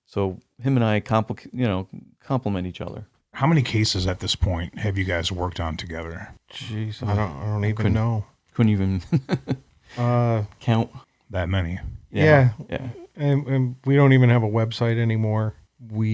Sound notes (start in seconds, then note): 9.0 laughs